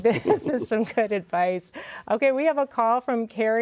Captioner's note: laughs